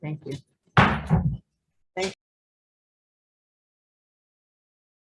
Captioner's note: gavel bangs